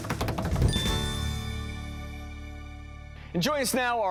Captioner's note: hands drumming; bell dinging